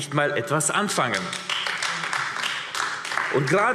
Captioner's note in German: Beifall AfD